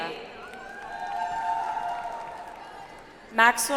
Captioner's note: audience applauds